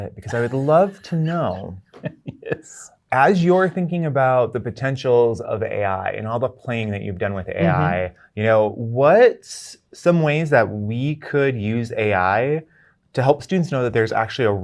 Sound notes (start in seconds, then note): 0.2 laughing